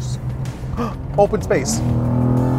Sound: gasps; engine revving

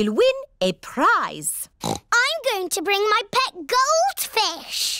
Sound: oinks

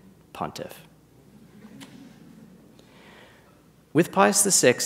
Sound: audience chuckles

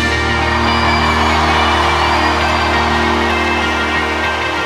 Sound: audience cheering

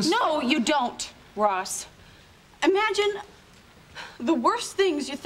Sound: none

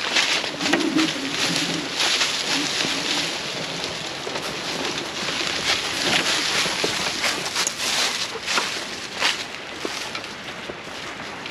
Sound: laughing

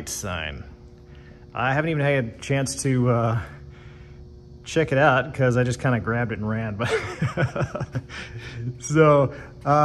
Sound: laughs

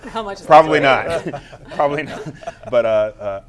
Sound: laughter

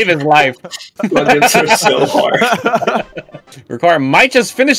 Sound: laughter

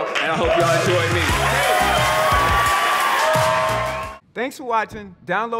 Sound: audience cheering

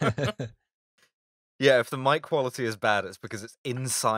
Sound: laughter

